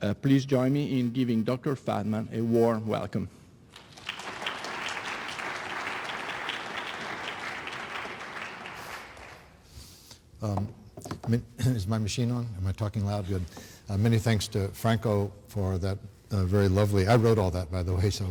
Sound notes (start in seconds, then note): 3.7 applause